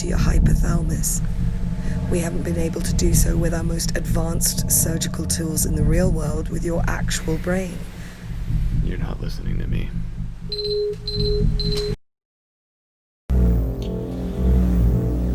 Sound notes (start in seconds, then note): 10.5 beeping; 13.4 vibrating noise